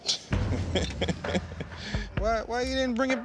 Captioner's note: laughter